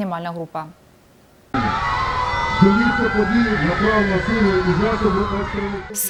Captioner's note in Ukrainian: сигнал тривоги